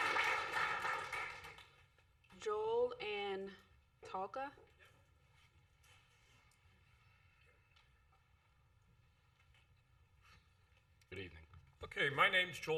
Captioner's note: applause